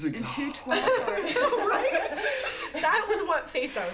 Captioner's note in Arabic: ضحك